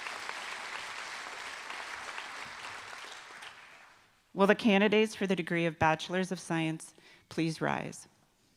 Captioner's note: applause